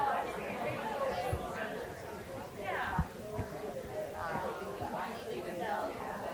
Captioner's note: people chattering continues